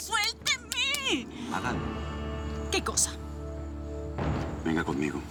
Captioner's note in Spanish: Manotazos